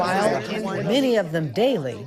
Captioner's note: people chattering